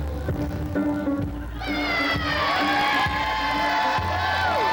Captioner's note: cheering